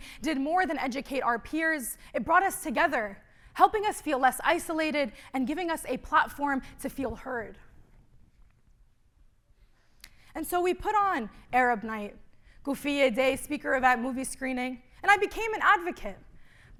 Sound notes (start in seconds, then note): 12.3 speaking arabic